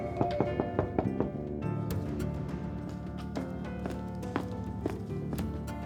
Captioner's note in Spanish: Toques en la puerta